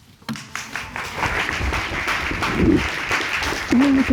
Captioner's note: audience applause